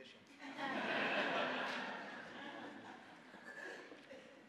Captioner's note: audience laughing